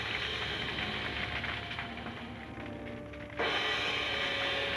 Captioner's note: fire crackling; cymbals crashing